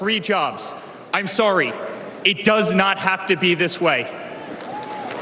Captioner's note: cheers and applause